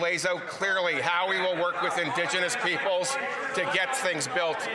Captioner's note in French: voix de l'interprète